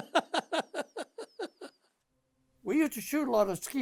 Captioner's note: chuckling